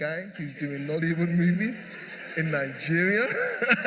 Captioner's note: laughter